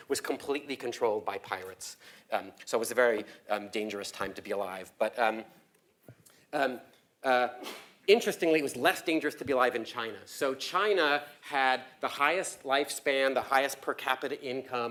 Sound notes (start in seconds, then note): 5.9 cough